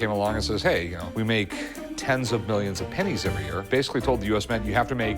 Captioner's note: none